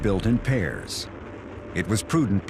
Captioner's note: rocket engine fires up